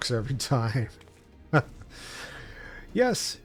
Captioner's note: laughs